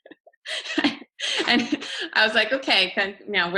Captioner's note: chuckles